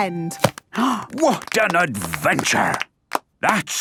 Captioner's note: applause